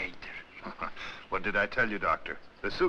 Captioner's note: chuckles